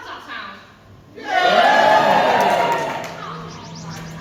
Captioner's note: audience cheer